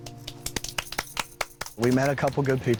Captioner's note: group claps